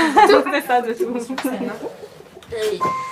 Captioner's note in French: rires